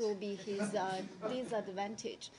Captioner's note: laughter